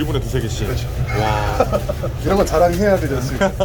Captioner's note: laughs